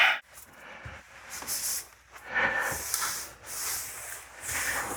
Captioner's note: breaths heavily like an out of shape dad or something